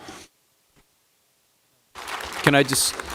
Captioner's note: applause